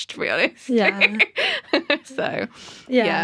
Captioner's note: laughter